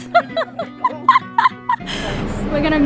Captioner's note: laughs